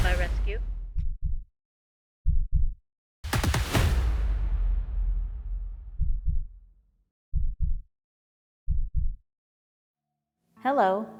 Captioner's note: heart beat sound, explosion